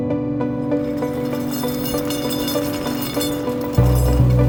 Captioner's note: chains rattling